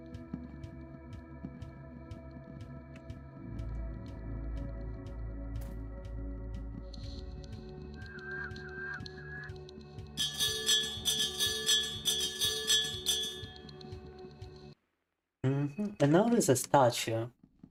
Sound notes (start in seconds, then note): 2.4 soft music; 4.8 bell ringing